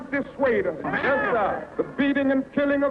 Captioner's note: voiceover